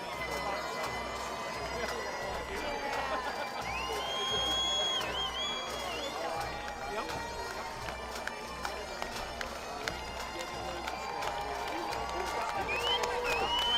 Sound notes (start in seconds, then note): 0.0 bagpipe music; 0.0 faculty cheering, applauding